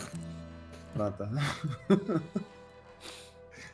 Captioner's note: laughs